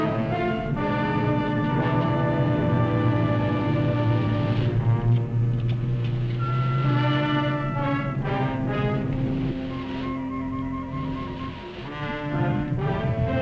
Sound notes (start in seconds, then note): none